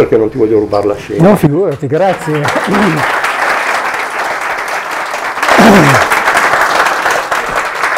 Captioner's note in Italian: applauso